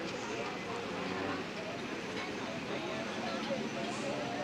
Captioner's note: indistinct chatter